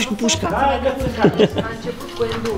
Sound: chuckles

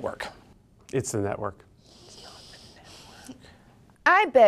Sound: whispers

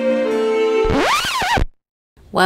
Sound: record scratch

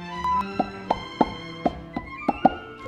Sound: mouth sounds

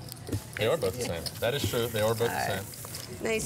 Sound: chuckling

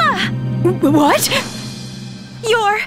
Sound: stammers

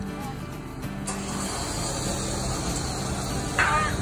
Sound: sound of winch unwinding

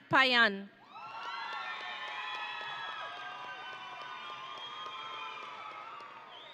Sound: audience and graduates cheering

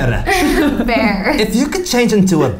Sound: all laughing

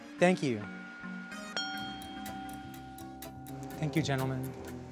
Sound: ringing

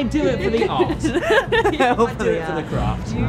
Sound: both laughing

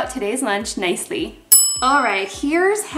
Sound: bell dings

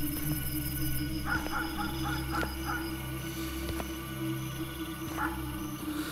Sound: dogs barking from far

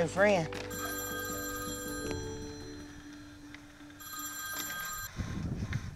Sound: phone ringing

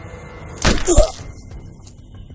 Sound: gun shot

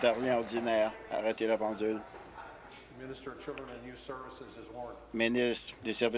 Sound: applause

